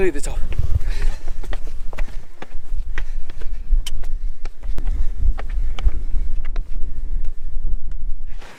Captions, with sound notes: We're nearly at the top. (feet clicking)